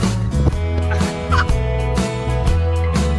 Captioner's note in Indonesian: tertawa